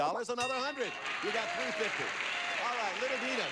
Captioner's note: audience applauding